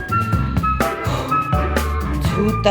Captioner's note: sighs